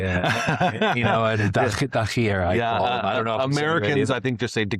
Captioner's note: laughing